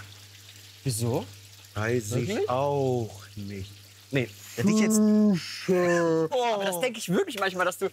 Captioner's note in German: sehr langsam gesprochen